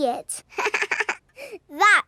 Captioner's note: chuckles